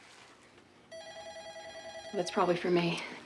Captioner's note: phone ringing